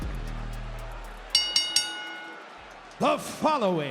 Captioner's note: bell rings